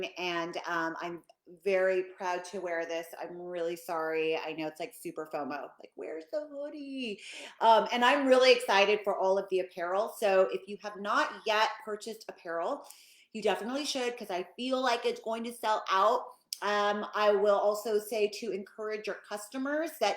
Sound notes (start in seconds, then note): none